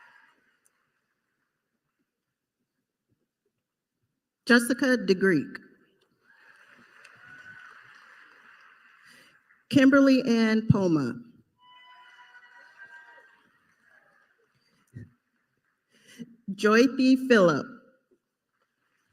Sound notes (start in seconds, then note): 2.4 applause